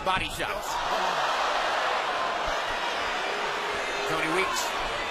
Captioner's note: crowd cheers